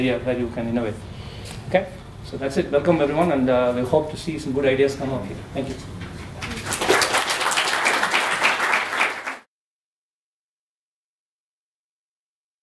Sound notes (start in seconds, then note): 6.4 applause